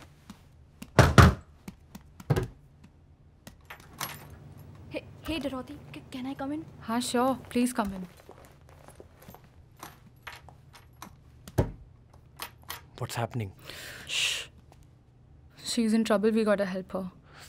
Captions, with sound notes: (Banging on the door) (Door opens) He hey, Dorothy, can I come in? Yes, sure. Please come in. - (Door shuts) - What's happening? - Shh. She is in trouble. We gotta help her.